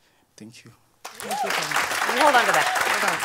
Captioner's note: applause